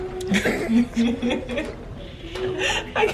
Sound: laughs

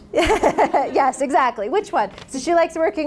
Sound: laughs

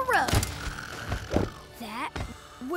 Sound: snoring

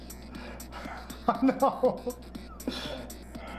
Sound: laughing

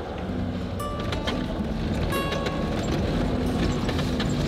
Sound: car engine rumbling

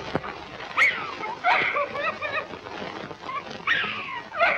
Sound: sobbing

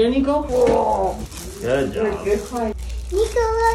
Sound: murmurs

